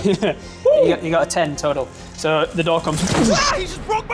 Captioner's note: boosh